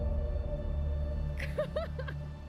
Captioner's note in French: rire